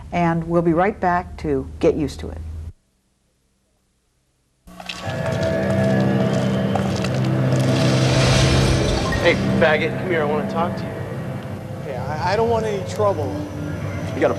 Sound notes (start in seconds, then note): 4.6 footsteps crunching; 4.8 ominous music; 7.9 glass clatters